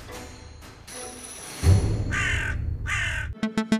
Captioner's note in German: Krähenruf; Dynamische Musik